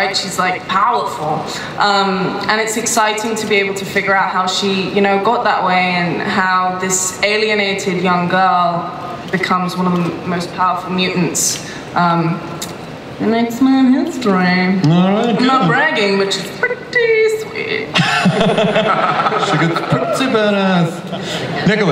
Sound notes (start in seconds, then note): 18.0 panel members laugh; 18.0 audience laughs